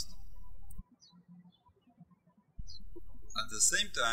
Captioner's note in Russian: птички щебечут